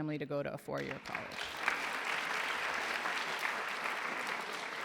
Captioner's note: applause